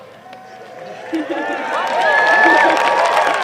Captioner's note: applause